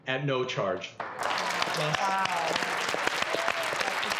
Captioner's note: audience applause